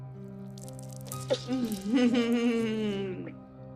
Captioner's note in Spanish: Risas